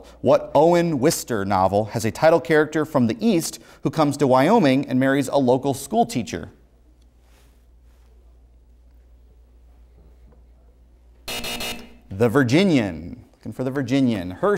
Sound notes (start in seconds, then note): 11.2 buzzer sounds